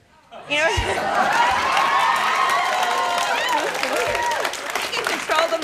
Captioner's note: audience claps and hollers